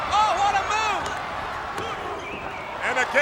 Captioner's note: hands thudding